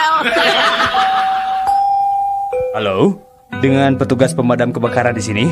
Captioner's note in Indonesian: tertawa